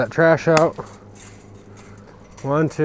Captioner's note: chain link snapping